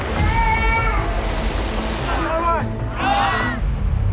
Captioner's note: baby crying